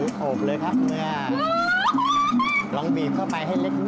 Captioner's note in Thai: เสียงร้อง